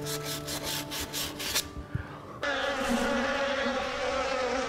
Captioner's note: sandpaper scraping; bees buzzing